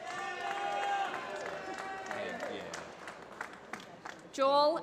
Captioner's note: applause